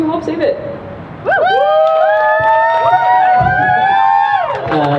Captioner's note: crowd cheers